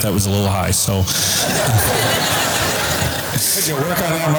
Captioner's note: audience laughter